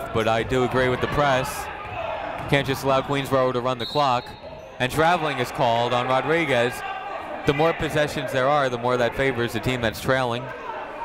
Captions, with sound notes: but I do agree with the press. You can't just allow Queensborough to run the clock. (whistle tweeting) And traveling is called on Rodriguez. The more possessions there are, the more that favors the team that's trailing.